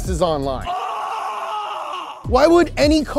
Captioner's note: screaming